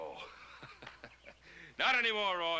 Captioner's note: chuckling